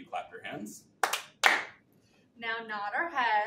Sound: hands clapping

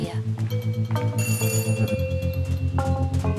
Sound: rings doorbell

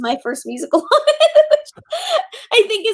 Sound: laughing

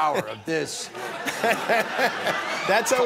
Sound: laughter

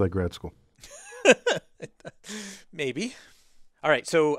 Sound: laugh

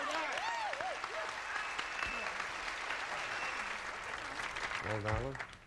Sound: audience applauding

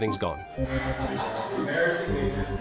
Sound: laughter

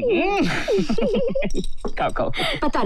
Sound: laughs

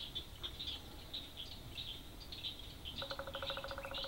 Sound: swamp sounds of bullfrogs and woodpecker

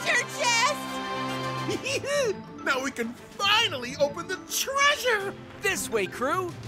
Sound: giggling

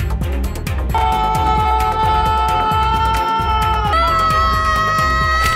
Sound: dramatic music; yelling in slow motion

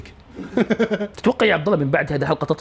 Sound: giggles

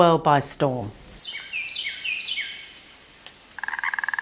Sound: birds chirping; frog croaking

